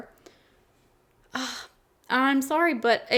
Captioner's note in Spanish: suspira